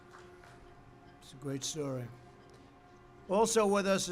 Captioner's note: applause